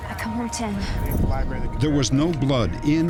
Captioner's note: whoosh